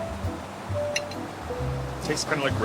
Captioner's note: silverware clinking